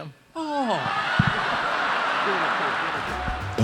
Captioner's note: laughing